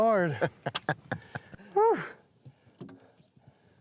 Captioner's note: laughing